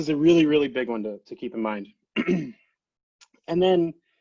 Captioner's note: clears throat